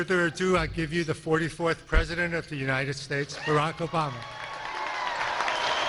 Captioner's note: cheers and applause